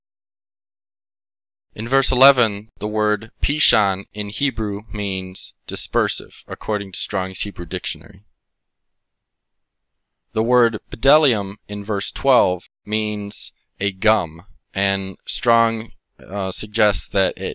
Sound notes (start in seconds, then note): 3.9 in Hebrew